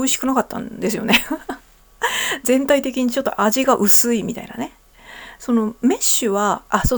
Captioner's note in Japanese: 笑い